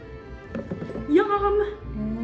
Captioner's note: dumping strawberries